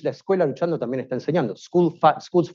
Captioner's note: speaking Spanish